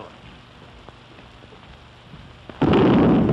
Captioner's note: boom